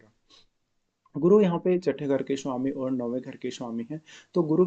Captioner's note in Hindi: नाक से की जाने वाली आवाज़